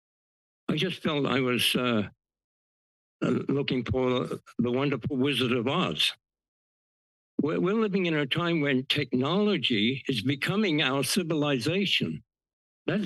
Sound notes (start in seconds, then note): 6.2 pause